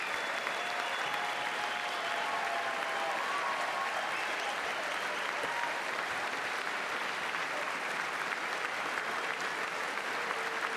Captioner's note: cheers and applause